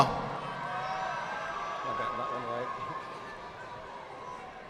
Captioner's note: audience applauding